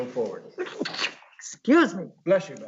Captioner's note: sneezes